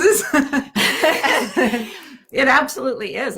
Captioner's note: both laughing